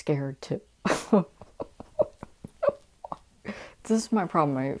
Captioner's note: laughing